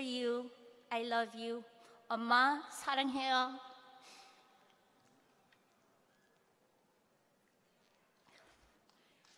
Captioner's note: speaking hawaiian